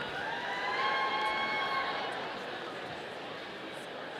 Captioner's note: audience cheering